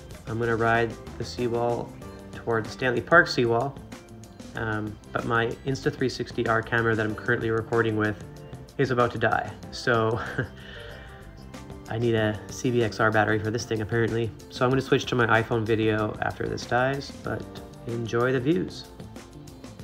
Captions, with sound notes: I'm going to ride the seawall toward the Stanley Park seawall. But my Insta360 R camera that I'm currently recording with is about to die... So (laughs) I guess I need a CBXR battery for this thing apparently. So I'm going to switch to my iPhone video after this dies. But for now... enjoy the view...